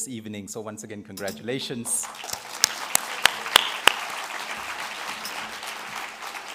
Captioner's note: crowd Claps